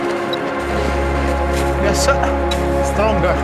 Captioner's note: machine beeps